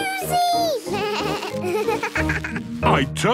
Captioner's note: bleating, laughing